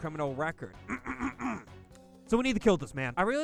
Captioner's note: clears throat